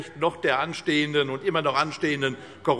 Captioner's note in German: none